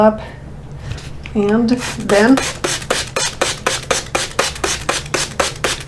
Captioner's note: water sprinkling